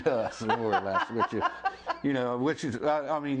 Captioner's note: laughs